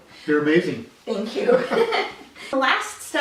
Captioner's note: giggles